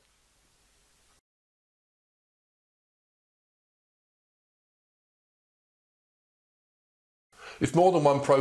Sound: silence

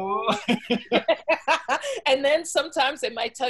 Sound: both laughing

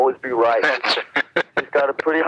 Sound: laughing

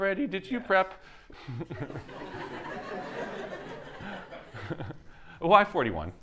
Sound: laughter

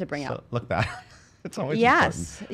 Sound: laughing

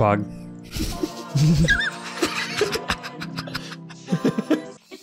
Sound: both laughing

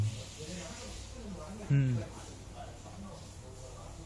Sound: speak reluctantly

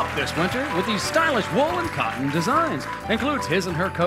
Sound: cheers and applause

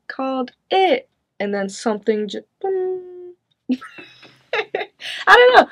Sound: chuckles

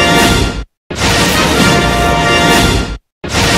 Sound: electricity zapping as rousing fanfare plays; zapping and fanfare continuing

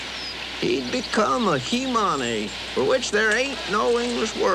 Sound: voiceover

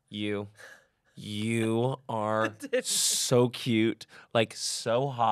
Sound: laughs

